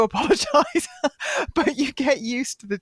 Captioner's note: laughs